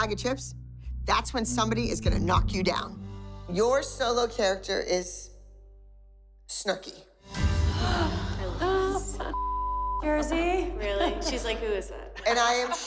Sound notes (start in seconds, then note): 7.7 moms gasp